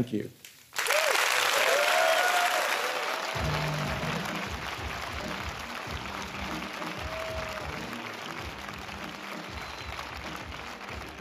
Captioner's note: applause